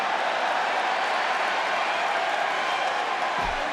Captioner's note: crowd cheers